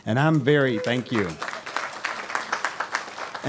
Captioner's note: applause